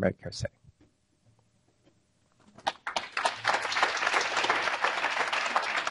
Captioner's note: applause